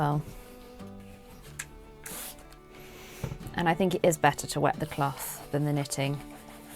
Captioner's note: water sprays